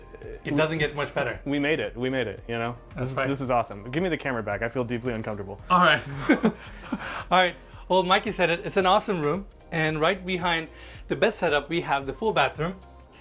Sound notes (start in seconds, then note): 6.0 laughs